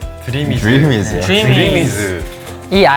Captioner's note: murmuring